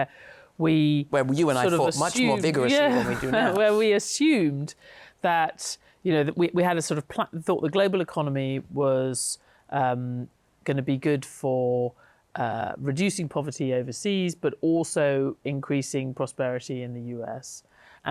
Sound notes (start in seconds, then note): 2.7 chuckles